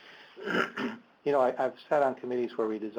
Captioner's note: clears throat